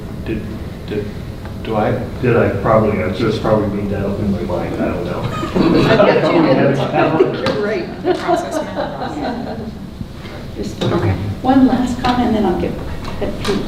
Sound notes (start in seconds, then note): 5.0 laughing drowns out speaker